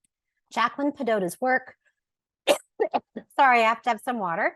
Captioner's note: coughs